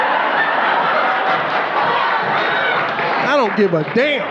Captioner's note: audience laughing